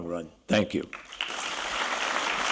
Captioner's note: applause